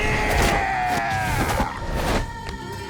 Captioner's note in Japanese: 叫び声; うめき声